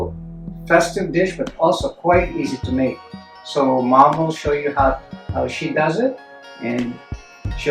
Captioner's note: none